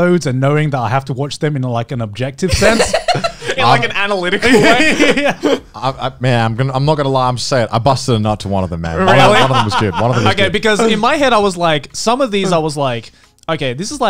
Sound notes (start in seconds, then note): 4.3 laughs